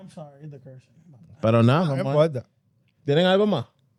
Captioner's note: speaking Spanish